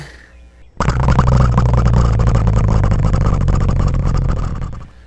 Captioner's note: engine sound